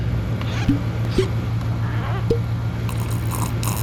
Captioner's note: lids popping; fluid gurgling